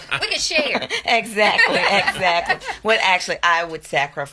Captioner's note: laughs